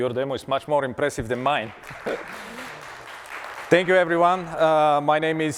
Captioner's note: applause